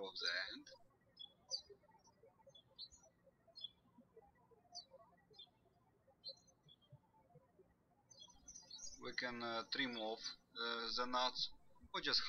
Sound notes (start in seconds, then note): 2.4 birds chirping